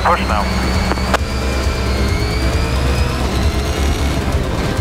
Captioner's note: engines rev